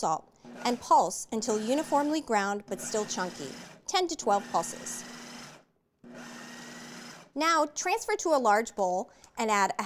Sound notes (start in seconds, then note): 6.0 food processor pulsing